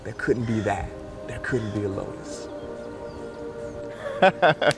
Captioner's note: laughs